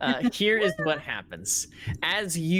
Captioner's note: laughing